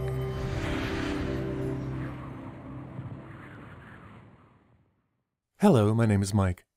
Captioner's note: wind and music